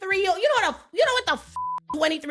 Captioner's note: beeping